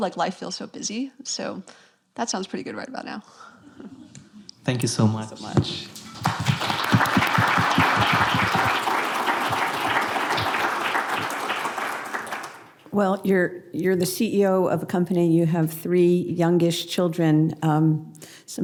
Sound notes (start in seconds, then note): 5.9 applause